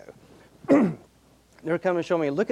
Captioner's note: coughing